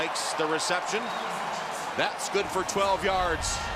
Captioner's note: cheering